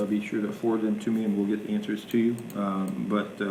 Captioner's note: none